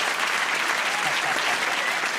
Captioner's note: applause